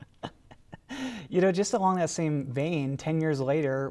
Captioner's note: Dan and Paterson laugh